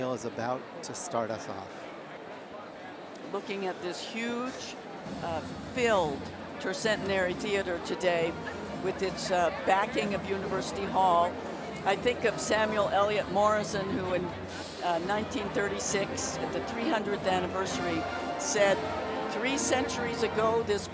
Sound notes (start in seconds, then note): none